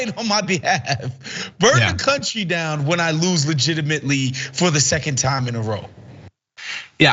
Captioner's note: laugh